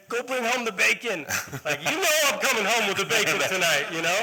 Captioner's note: laughter